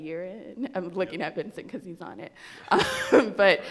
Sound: laughs

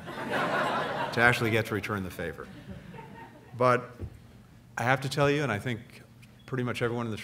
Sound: laughter; laughter

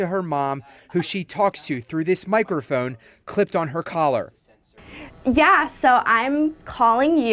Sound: laughter

